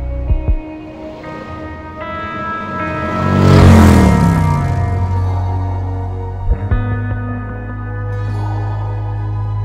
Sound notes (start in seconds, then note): 1.7 motorcycle hums lightly; 3.6 loud motorcycle noise